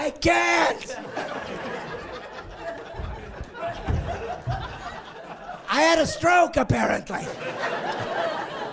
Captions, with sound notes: "Help me!" "Turn on a light." "I can't." (laughing)